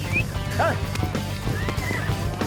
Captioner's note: whistles